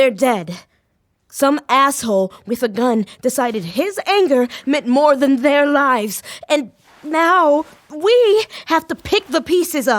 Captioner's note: borderline yelling